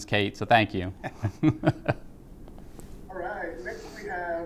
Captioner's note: laughs